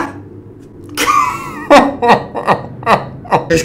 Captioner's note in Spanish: risas